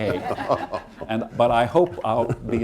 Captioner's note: laughter